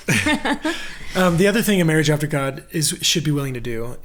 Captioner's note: laughs